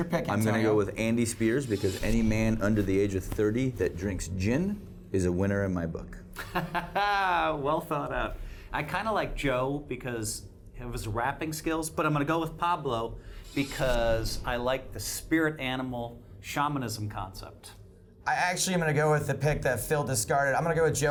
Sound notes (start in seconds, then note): 6.4 laughs